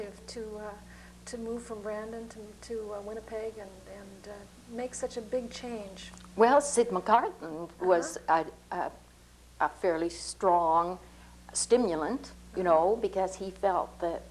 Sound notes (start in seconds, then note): 7.8 laughs